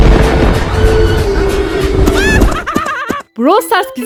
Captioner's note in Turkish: kahkaha